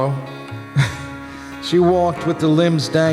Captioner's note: laughter